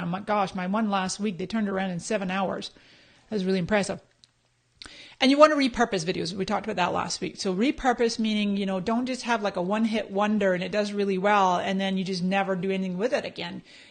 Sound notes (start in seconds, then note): none